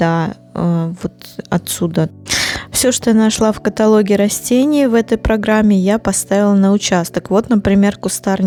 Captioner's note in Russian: фыркает